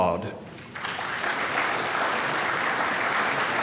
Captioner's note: applause